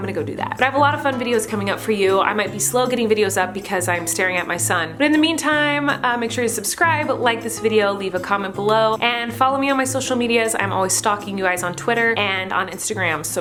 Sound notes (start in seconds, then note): none